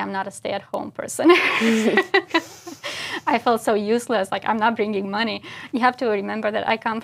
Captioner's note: laugh